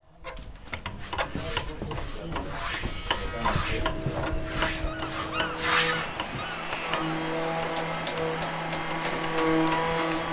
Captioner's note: sounds of hammers, planers and workshop chatter